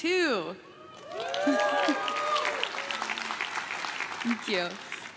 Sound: crowd claps and cheers

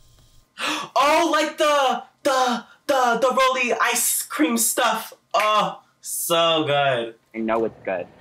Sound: gasps

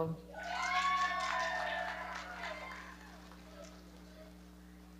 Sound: audience cheering and clapping

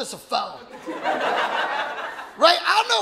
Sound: audience laughing

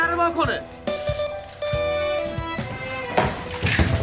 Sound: doorbell ringing

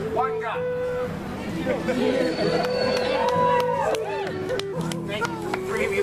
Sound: audience Laughs and Cheers

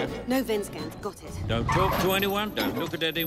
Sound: tires skidding

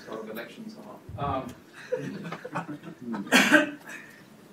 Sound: laughter

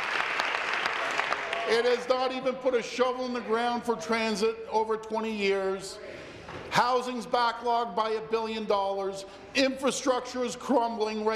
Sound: applause

